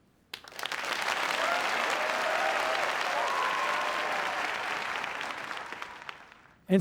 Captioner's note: applause